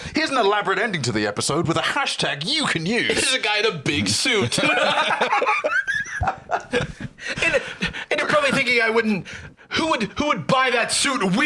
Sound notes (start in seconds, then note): 4.4 both laughing